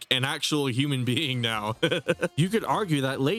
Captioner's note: laughs